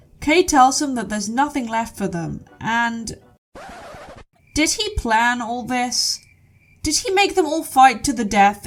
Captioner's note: record scratch